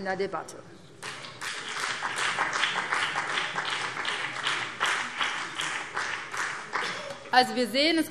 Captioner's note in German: Beifall BÜNDNIS 90/DIE GRÜNEN